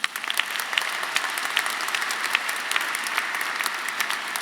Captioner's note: audience applauding